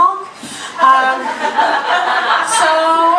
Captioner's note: audience laughter